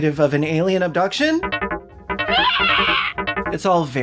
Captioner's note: painted screams of a hairy toaster